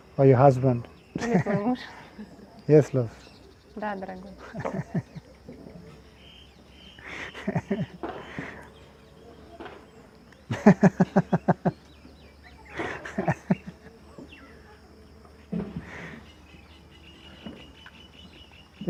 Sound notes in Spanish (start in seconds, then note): 4.3 Risas